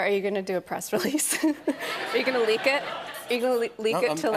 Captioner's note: laughter